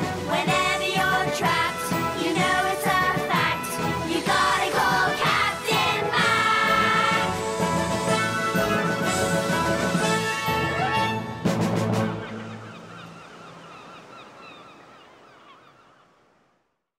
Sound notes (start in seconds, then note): 11.8 seagulls